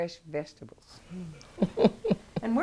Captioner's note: chuckles